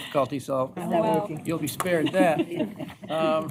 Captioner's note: laughter